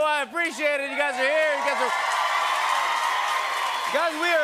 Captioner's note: cheers and applause